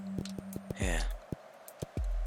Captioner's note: sigh